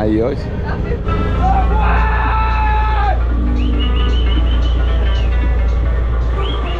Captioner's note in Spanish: charla y gritos de emoción